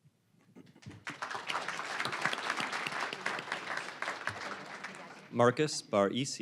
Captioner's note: applause